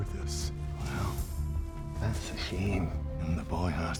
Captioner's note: scottish accent